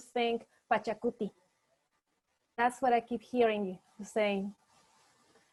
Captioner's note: speaking spanish